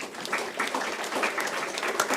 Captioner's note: applause